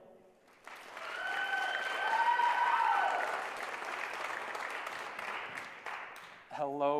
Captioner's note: applause